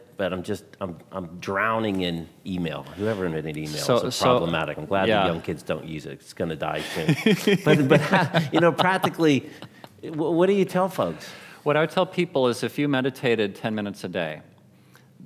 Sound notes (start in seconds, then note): 6.8 laughing